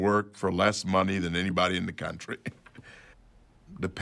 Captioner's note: chuckles